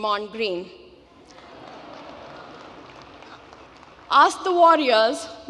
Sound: crowd oohing and laughing

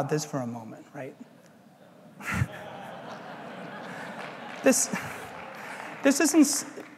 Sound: laugh

